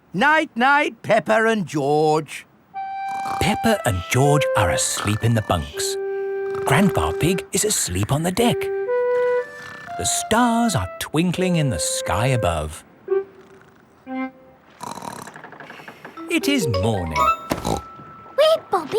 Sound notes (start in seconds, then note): 14.7 snorts; 17.6 snorts